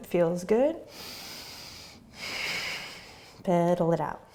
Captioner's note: breathing